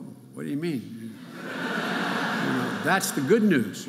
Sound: audience laughing

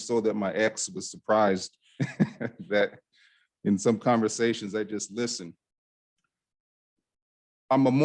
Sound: chuckle

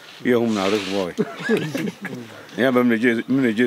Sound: laugh

